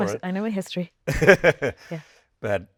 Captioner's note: Hugh laughing